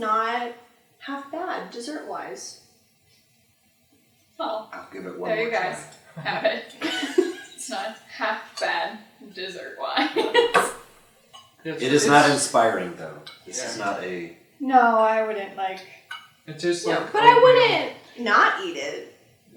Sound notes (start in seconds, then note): 6.7 laughter; 11.7 laughs